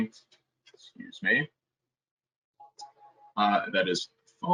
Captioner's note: phone ringing